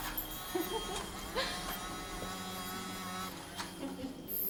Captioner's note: giggling